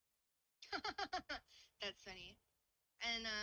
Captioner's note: laughs